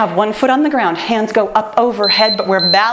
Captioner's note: timer beeps